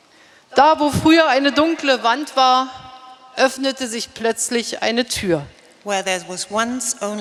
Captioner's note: speaking in German